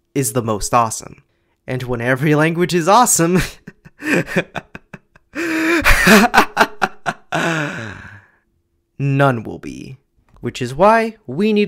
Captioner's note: evil chuckling